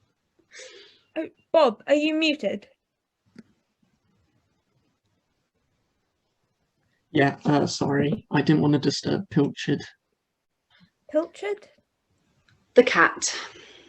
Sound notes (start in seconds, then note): none